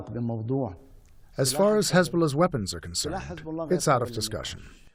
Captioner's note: through translator